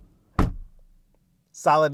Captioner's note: door bangs